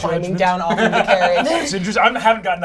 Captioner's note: laughs